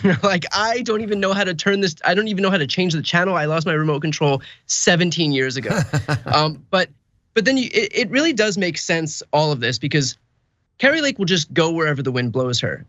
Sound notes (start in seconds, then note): 5.6 laugh